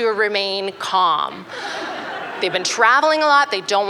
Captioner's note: laughter